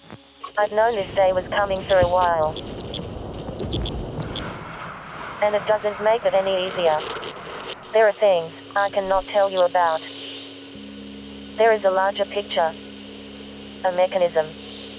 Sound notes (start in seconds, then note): 2.9 intermittent buzzing